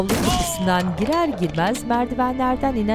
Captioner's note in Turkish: Düşme sesi